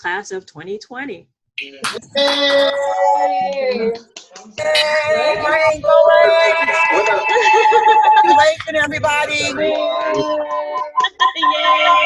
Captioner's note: cheers